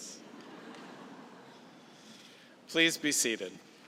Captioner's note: laughter